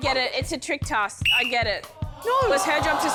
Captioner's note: blows whistle